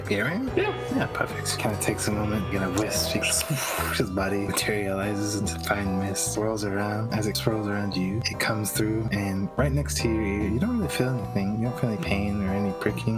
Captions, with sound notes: Kind of takes a moment, and in a whisp he *ssWOOOSH* His body materializes into fine mist It swirls around, as it swirls around you it comes through and right next to your ear you don't really feel anything, You don’t feel any pain or any pricking.